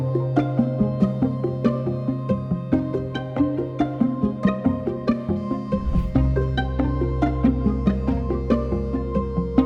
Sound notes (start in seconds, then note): 2.2 pensive music continues; 5.7 air whooshes